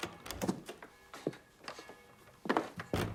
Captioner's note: bell ringing; door opens